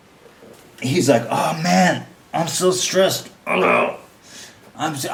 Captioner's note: imitates gurgling